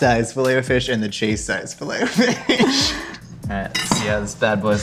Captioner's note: laughs